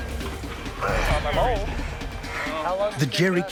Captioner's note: groans; voiceover